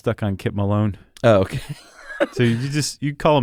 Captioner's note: laughs